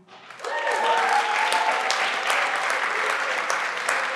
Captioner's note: everyone claps